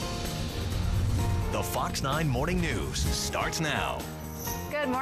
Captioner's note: voiceover